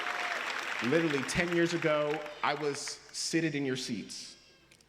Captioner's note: applause